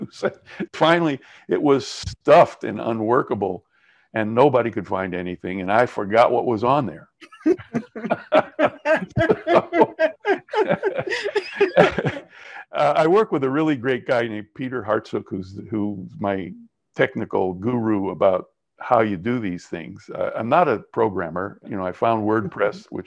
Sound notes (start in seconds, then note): 7.3 both laughing